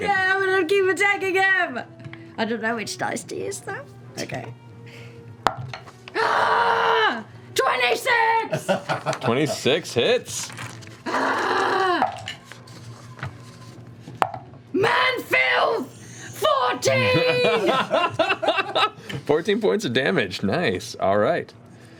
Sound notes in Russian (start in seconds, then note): 11.0 кричит; 16.8 смеётся